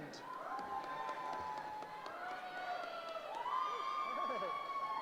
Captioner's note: cheering